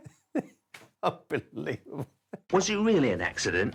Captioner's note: laughing